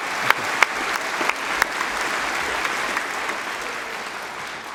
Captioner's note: applause